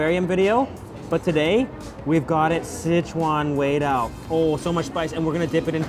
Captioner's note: foreign language